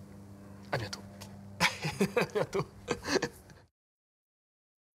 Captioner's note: laughs